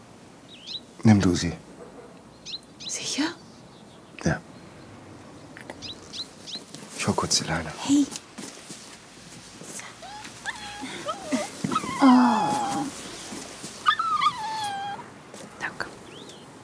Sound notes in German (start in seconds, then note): 9.9 Winseln; 13.7 Trauriges Winseln